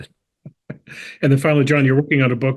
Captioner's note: laugh